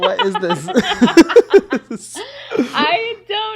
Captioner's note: both laughing